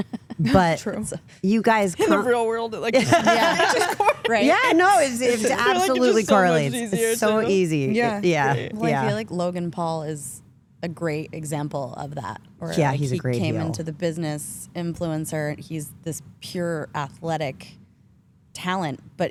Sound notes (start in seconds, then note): 2.9 all laugh